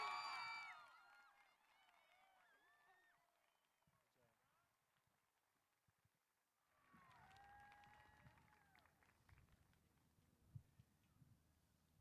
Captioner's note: applause